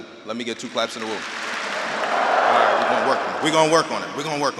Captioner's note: audience clapping and wooing